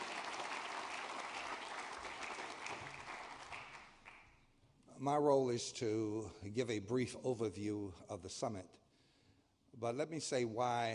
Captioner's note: applause